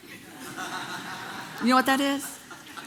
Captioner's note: congregation laughing